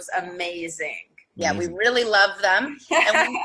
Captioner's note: laughing